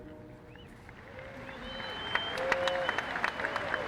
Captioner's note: applause